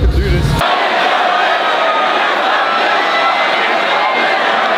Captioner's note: crowd cheering